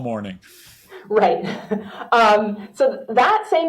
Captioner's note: laughs